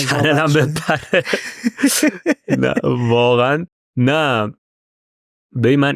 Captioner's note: laughs